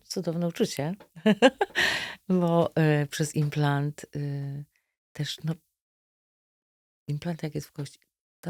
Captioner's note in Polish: śmiech